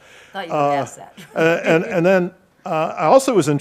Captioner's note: laughs